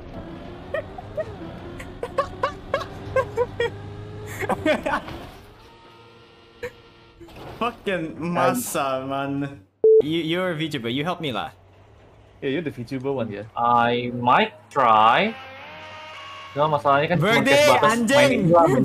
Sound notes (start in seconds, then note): 1.7 laughing continues; 17.4 in indonesian